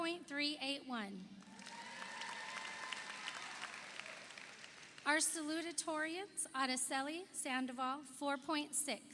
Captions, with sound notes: (audience applauds) (audience cheers) Our salutatorians Araceli Sandoval 4.6,